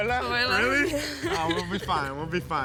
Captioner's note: laughing